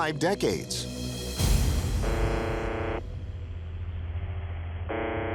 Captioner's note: buzzing tone